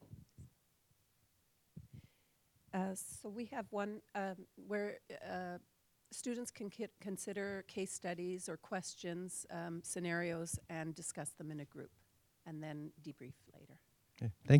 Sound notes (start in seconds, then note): 3.7 voiceover